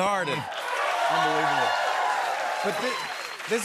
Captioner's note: cheers and applause